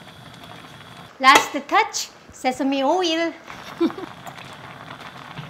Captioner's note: chuckling